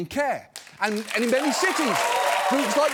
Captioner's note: audience cheering, applauding